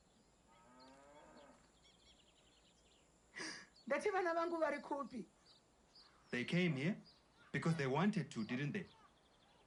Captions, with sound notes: [exhales] I said where are my kids?! They came here, because they wanted to, didn't they?